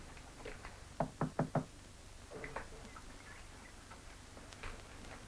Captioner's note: knocking on door